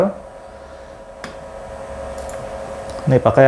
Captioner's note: clicking sound